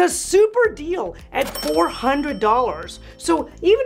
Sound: bell rings

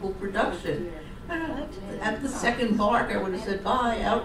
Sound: audience surprise and acknowledgement

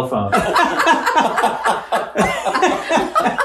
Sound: laughs

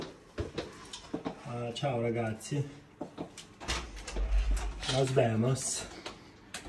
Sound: speaks something in Italian

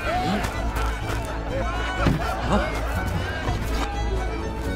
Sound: laughing

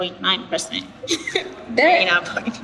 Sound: giggling

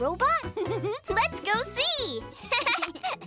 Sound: chuckles; chuckling

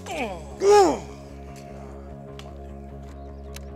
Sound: both grunting

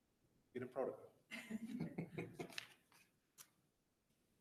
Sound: laughing

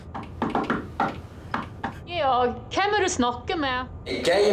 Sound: knocking on the door

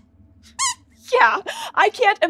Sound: squeaks squeaking

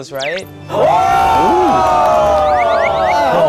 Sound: they can't stop clapping

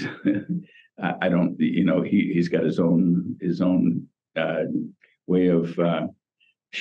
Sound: laughs

